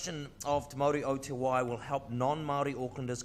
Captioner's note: speaks in foreign language